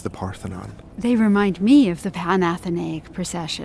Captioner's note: voiceover